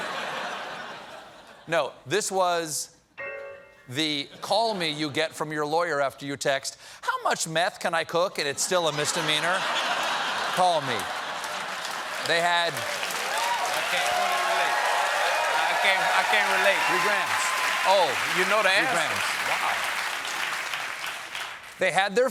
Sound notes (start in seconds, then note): 0.0 laughter; 8.7 laughter; 13.9 cheers and applause